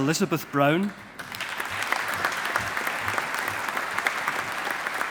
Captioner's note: audience applauding